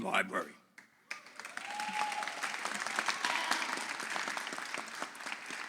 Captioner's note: audience applauds